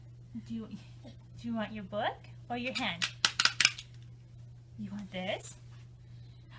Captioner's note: toy claps